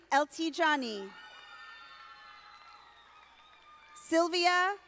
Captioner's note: audience applauding